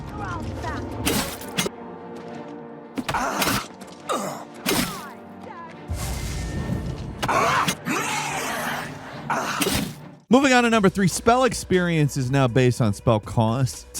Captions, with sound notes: (fighters grunting) Moving on to number three. Spell experience is now based on spell costs.